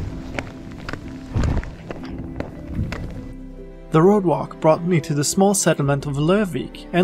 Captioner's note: thunder